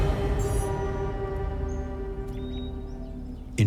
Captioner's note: birdsong